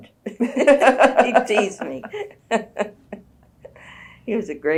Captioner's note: laughter